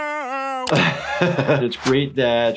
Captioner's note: laughs